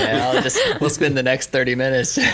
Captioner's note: laughing